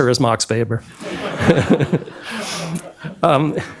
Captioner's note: laughter